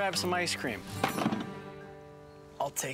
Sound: thudding

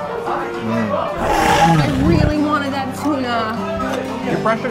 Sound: lion growl

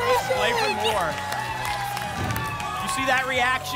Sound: applause and cheering

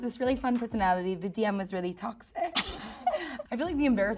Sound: Ayo laughing

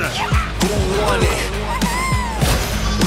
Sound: fighting grunts; sheep bleats

